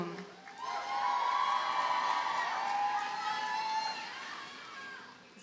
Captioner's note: audience cheers and applauds